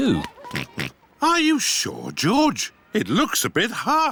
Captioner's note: oinks